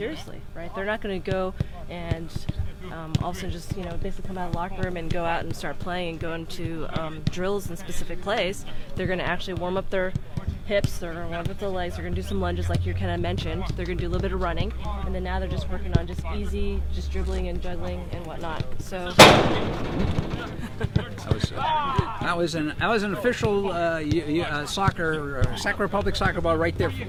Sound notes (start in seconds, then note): 19.2 ball crashes; 26.0 laughs